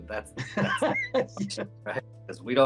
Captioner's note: both laugh